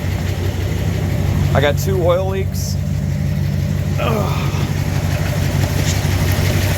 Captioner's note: groans